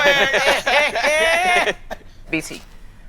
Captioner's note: all laughing